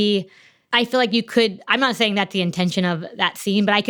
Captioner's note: none